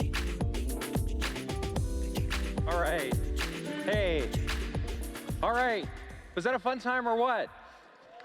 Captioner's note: applause